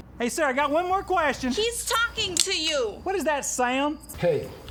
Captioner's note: gun clicks